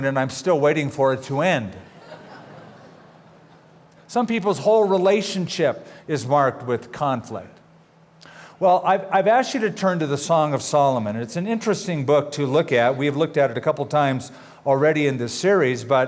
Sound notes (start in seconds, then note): 1.8 laughter